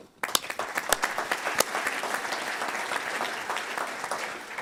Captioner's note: audience applauds